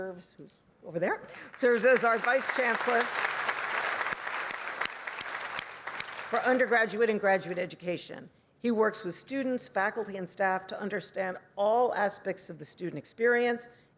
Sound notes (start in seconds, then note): 3.8 applause